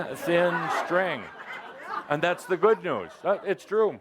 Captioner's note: laughter